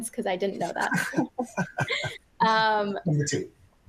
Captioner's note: laughter